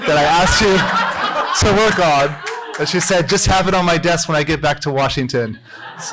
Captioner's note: laughter